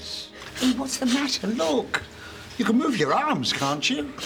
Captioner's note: sniffling